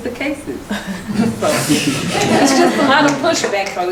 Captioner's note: laughing